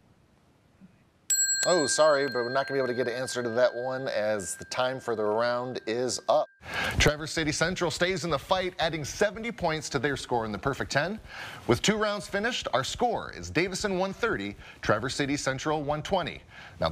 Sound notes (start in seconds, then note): 1.3 bell ringing